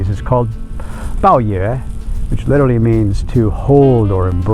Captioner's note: speaking foreign language